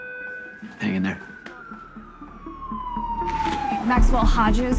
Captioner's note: siren blaring